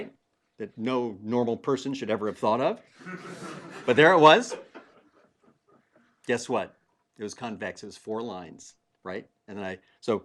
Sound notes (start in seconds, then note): 3.0 laugh